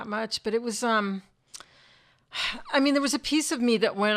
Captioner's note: sighs